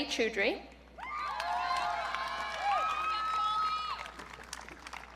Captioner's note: audience cheering